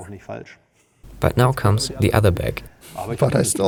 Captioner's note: laughs